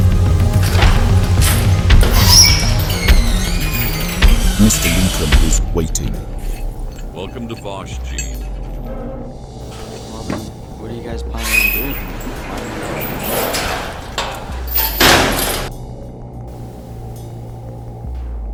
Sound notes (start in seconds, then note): 2.5 garage door creaks open; 12.3 garage door creaks closed